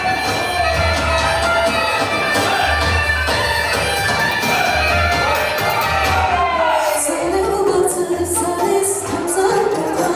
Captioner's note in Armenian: ծափահարություն